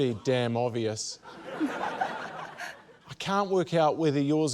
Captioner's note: laughter